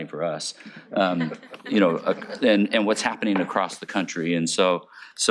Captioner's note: chuckling